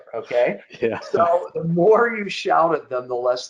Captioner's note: chuckling